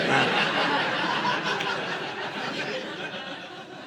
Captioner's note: audience laughing